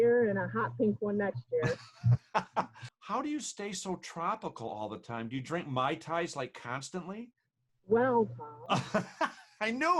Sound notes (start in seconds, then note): 1.6 laughing loudly; 8.7 laughing loudly